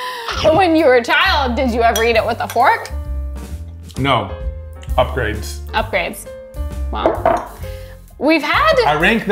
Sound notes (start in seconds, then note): 0.2 chuckling; 2.9 lounge music; 7.0 glass thudding softly